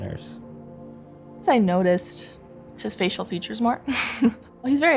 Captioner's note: laughs